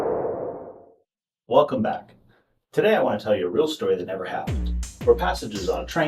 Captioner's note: woosh sound